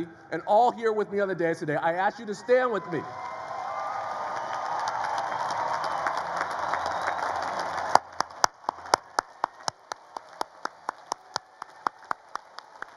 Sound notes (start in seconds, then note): 3.5 audience cheers and applauds